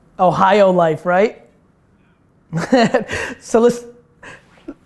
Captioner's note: laughs